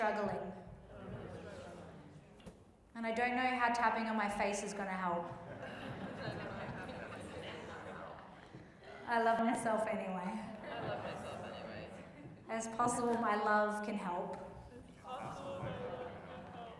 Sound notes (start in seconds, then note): 5.3 group laughs and mutters